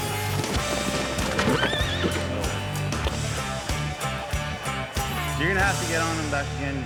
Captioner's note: neighs wildly